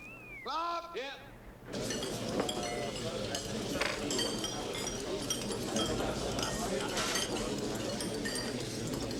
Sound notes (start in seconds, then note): 1.7 dishes clattering; 1.7 people chattering